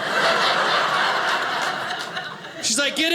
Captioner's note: audience laughing